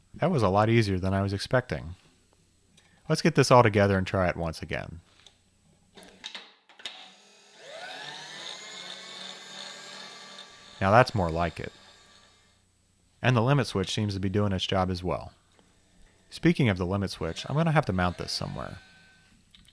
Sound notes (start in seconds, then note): 7.5 engine whirring